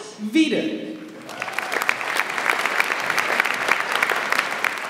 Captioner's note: audience applauds